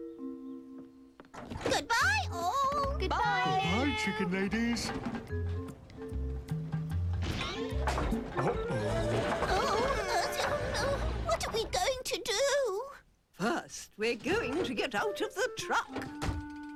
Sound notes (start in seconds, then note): 7.1 creaking